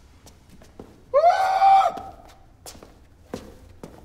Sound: cries

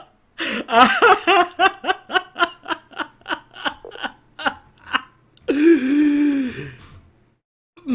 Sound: laughing

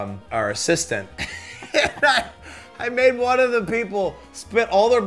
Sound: laughing

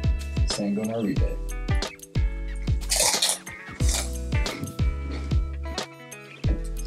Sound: soft music; chewing sound

